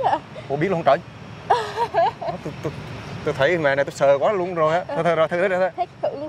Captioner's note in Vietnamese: Tiếng cười